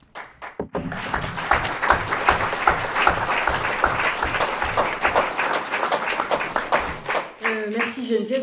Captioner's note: applause